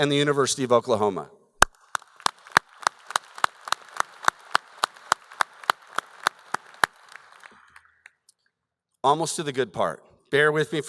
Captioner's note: applause